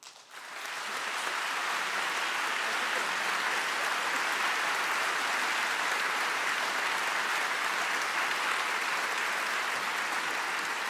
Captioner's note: applause